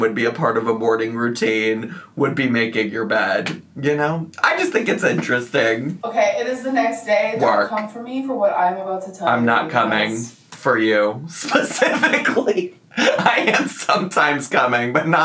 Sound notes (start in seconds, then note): 12.9 laughs